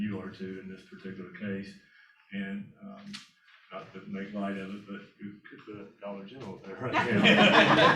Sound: laughter

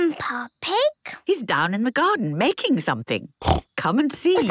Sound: snorting; laughter

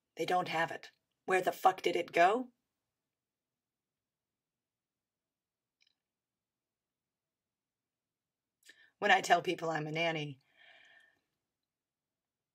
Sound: inhales deeply

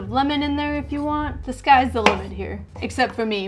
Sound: knife bangs

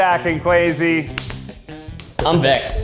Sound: clapping

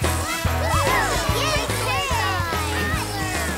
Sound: cheering

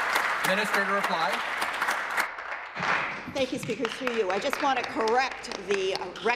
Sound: applause

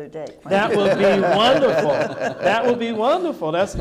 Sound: audience laughing

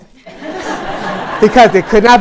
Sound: laughter

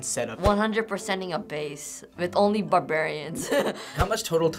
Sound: chuckles

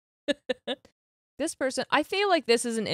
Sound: laughs

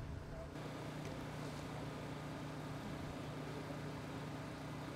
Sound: machine whirs

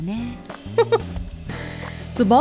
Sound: chuckles

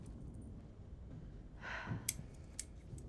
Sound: Annie sighing; scissors snipping

